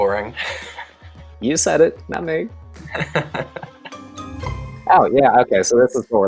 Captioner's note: chuckles